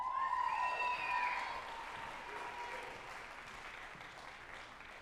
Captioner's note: group applauding and cheering